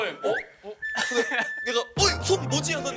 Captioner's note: cough